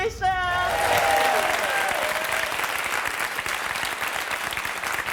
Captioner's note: crowd applauding